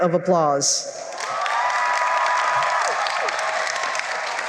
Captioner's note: cheering and applause